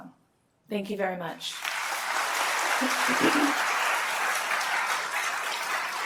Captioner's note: applause